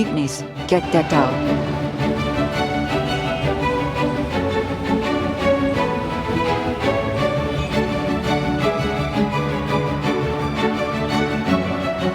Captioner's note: sound of jeepneys and traffic, Music